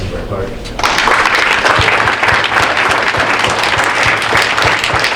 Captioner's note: audience applauding